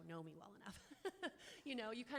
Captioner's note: chuckles